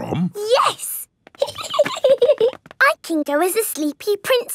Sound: giggling

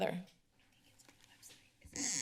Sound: whispers

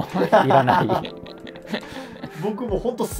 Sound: laughing

